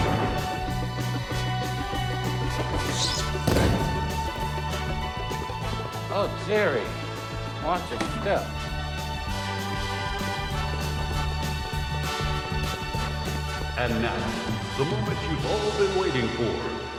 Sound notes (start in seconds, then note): 2.3 screeching shoes